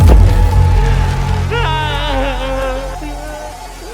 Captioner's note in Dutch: Grita decepcionado